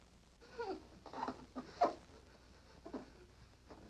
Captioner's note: moans